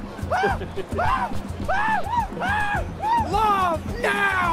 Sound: screaming

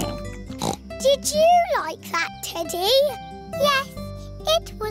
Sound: snorts

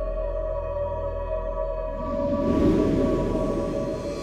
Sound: whooshes

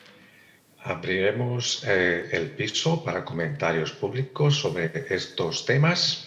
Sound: translator speaking in Spanish

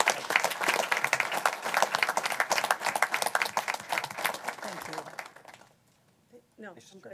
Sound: applause

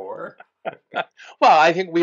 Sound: laughs

